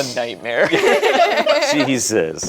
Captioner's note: group laughs